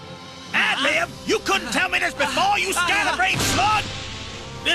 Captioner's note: smash